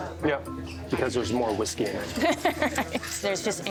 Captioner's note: laughs